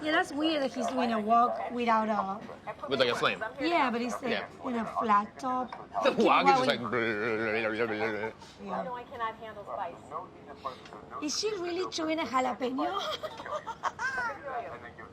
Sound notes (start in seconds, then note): 7.6 babbles deeply; 12.8 laughs